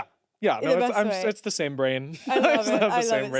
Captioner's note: laughs